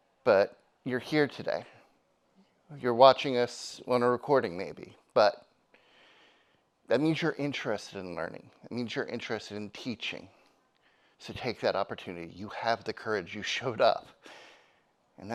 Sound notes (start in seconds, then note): none